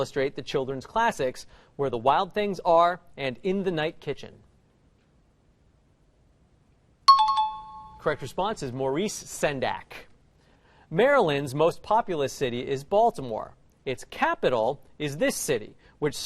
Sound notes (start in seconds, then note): 7.1 dinging